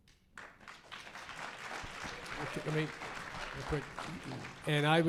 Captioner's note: audience applause